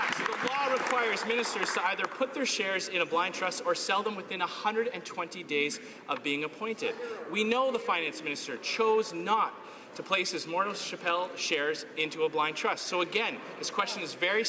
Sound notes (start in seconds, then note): 2.2 some Applause